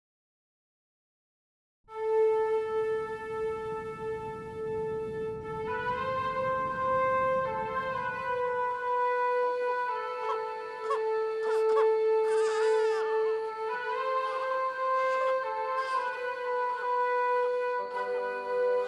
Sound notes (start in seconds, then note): 1.9 somber instrumental music; 9.3 crickets chirping; 10.5 infant crying; 13.7 somber instrumental music continues